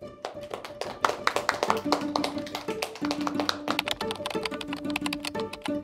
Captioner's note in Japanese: 拍手